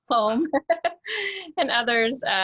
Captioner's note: giggles